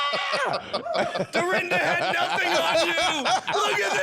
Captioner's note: yelling, laughter